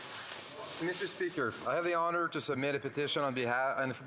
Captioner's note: speaking French